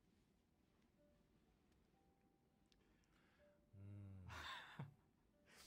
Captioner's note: laughs